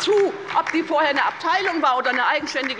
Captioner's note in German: Beifall bei der LINKEN